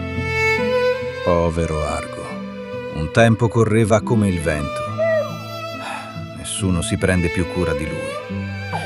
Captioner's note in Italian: sigh